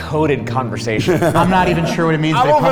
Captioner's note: laughs